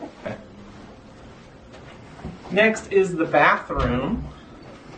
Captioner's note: laugh